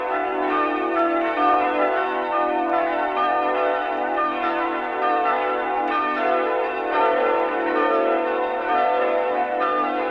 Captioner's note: bells ringing